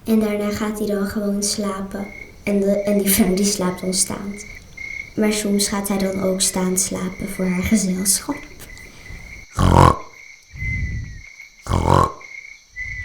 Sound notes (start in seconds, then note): 9.5 snoring; 10.5 whistle; 11.6 snoring; 12.7 whistle